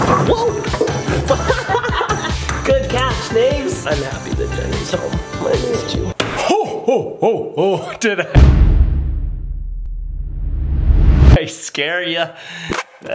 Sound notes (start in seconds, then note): 0.3 laughs; 5.2 making frightening sounds